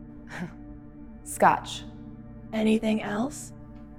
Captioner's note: laughs